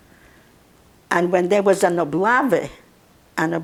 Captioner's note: russian